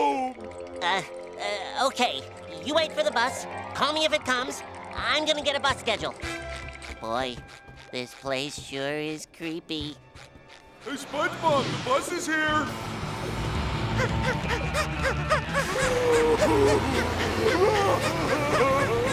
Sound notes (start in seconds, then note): 13.9 panting; 15.8 Patrick crying